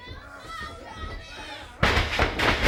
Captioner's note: crowd chatter